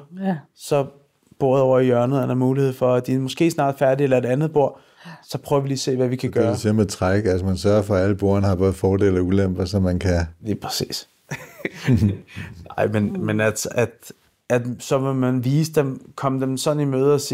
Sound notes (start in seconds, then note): 11.3 laughs